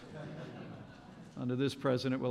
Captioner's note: laughter